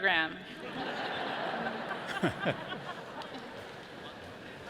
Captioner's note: audience laughs